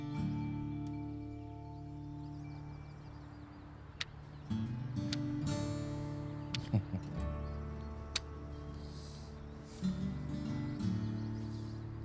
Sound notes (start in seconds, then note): 6.5 chuckles